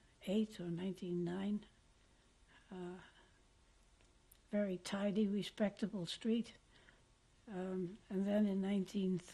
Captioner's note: pauses for 3 seconds